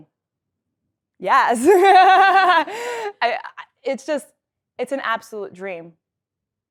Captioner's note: laugh